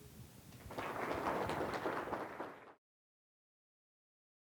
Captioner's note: applause